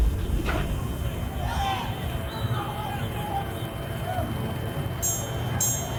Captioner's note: people exclaiming faintly; bell ringing